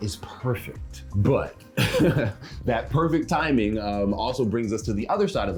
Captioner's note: chuckles